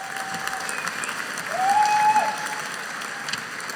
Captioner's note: audience cheering